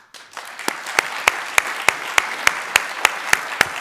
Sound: applauding

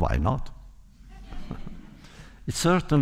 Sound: laughter

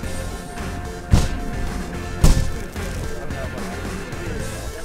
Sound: bottles thump

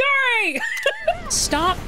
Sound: laughter; camera Click

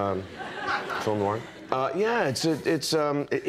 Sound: audience laughing; speaking french

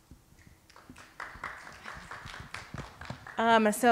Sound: audience applauding

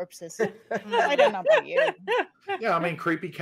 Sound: group laughing

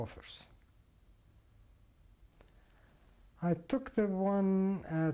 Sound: pauses for 3 seconds

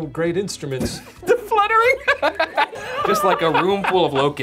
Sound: laughing

